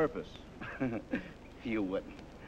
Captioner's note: laughter